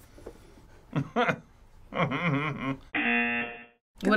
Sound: buzzer; chuckle

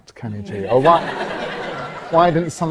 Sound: audience laughs

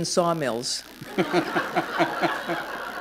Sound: laughter

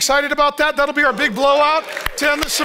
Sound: audience cheers

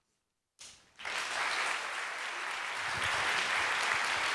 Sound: applause

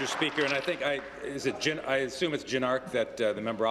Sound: applause

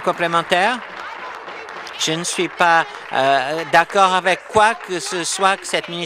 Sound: applause

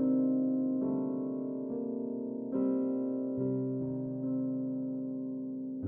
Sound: none

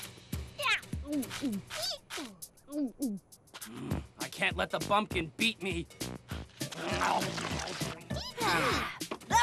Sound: chirping

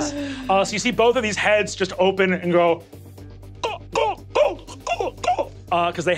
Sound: choking

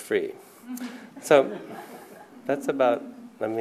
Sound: laughter

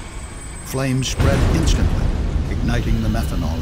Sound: explosion booms

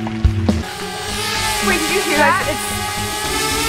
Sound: drone buzzing

